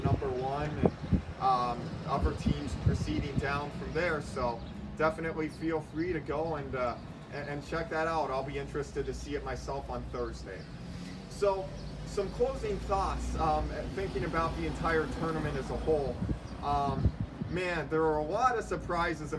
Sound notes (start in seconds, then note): 10.6 vehicle accelerating at corner